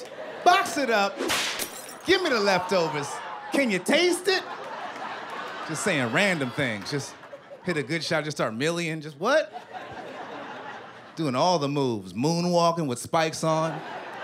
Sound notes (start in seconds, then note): 9.3 laughter